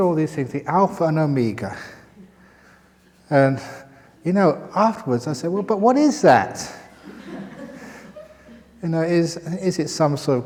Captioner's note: laughter